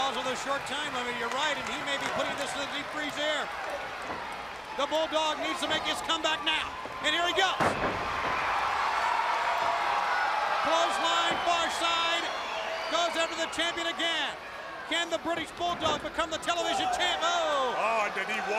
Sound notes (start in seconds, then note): 7.6 crowd cheering